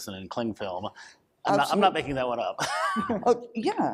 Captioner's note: laughs